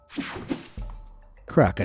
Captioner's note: screen whooshing